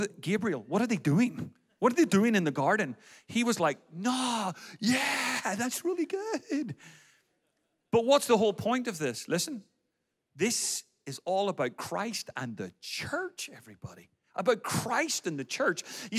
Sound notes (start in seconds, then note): none